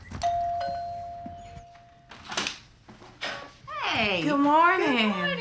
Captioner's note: doorbell ringing